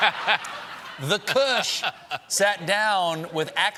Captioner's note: laughter